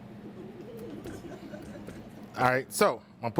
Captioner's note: students laugh